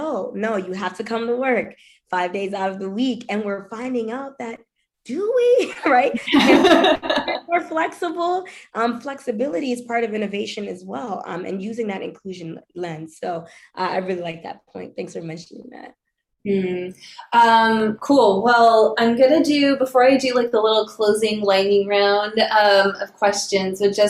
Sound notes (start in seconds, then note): 5.6 laughs